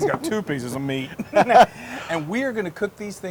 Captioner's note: laugh